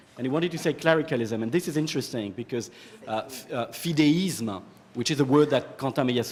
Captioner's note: french